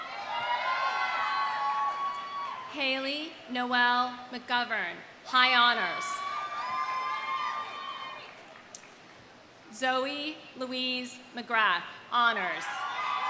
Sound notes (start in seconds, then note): 0.0 audience cheering; 6.0 audience cheering